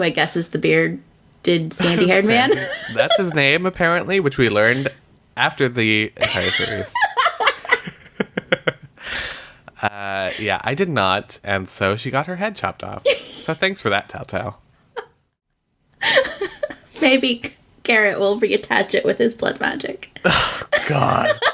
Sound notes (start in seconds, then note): 1.8 laughs; 8.6 laughs; 16.6 laughs